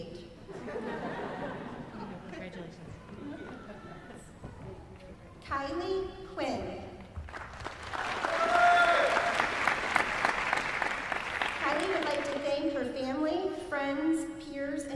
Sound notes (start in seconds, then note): 0.5 laughs; 7.2 applause